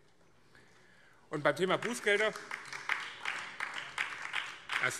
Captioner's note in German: Beifall BÜNDNIS 90/DIE GRÜNEN